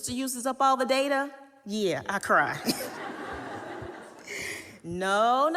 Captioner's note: audience laughing